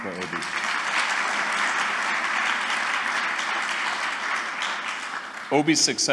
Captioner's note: applause